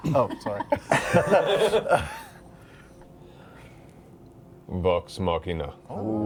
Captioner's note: laughter